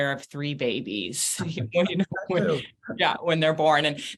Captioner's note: both chuckle